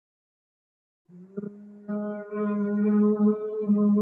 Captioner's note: humming